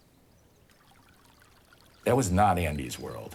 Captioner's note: water trickling